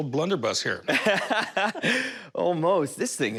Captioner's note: laughs